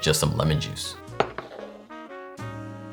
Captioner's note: bowl sliding